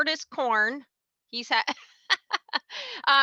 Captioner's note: laughs